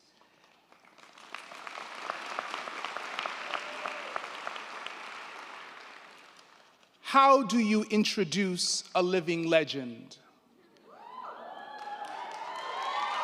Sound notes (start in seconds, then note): 0.2 crowd clapping; 10.9 crowd cheering